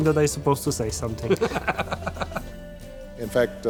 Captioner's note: both laugh